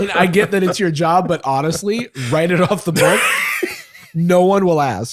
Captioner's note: laughing